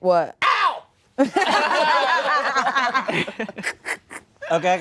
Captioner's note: laughter